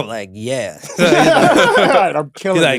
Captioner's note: laughing